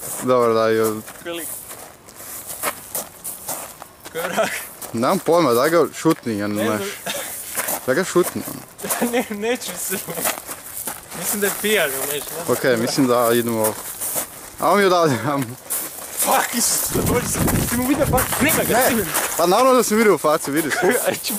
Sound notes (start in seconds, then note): 17.6 yelling